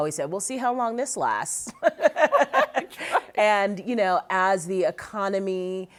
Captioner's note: both laughing